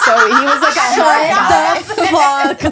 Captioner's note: laughing